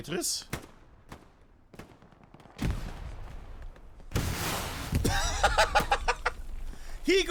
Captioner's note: laughs